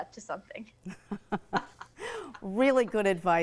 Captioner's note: laughing